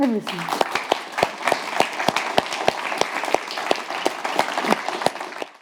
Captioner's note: audience applauds